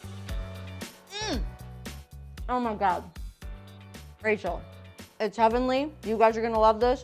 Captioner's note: groans